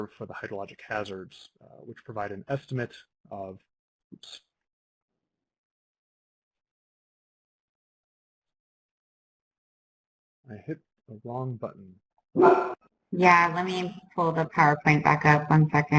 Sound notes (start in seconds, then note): 12.4 dog barks